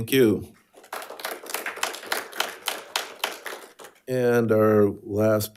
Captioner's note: audience applauding